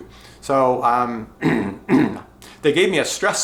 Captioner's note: clears throat twice